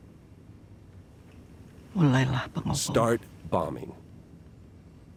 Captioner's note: mycologist speaks indonesian